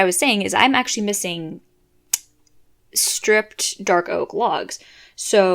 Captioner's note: click